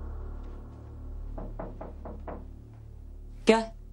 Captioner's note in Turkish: Kapı çalıyor